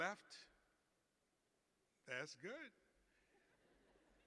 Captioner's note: laughter